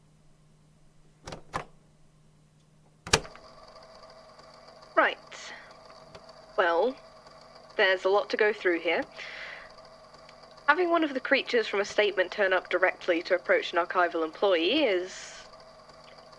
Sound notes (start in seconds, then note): 1.4 click